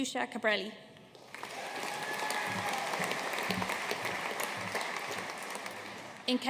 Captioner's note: audience cheering and applauding